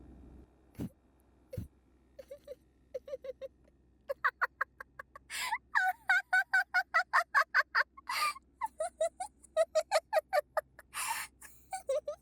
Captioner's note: laugh